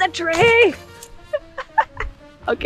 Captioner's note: laugh